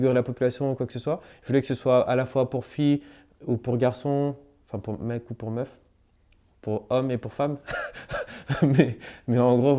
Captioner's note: laughs